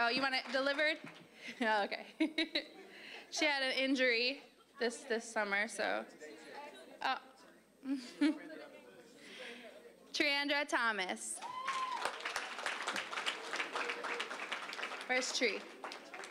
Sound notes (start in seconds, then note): 2.1 chuckling; 6.4 general chatter; 11.4 applause